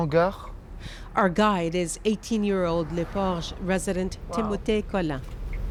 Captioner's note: speaking french